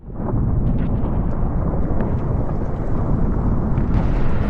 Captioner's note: wind howling